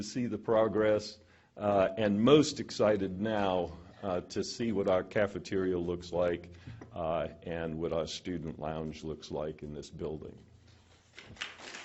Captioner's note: applause